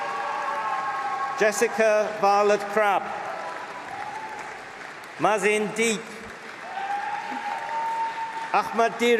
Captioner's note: applause